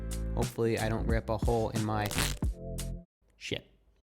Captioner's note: cracks